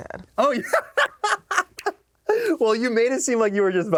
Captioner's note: laughs